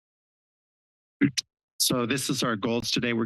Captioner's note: microphone noise